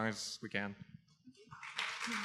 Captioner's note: applause